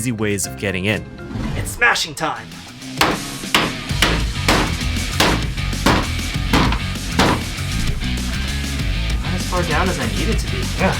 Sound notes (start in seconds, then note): 2.6 action Music; 3.0 weak Hammer Taps; 4.7 propper Hammer Smashes